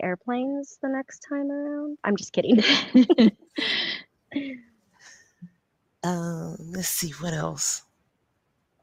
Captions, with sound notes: - Should we expect airplanes the next time around? I'm just kidding. (laughs) - Let's see what else.